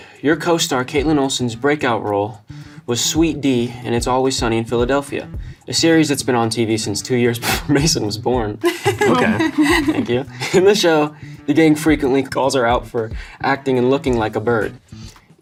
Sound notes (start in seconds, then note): 8.6 Loren laughs; 8.6 laughs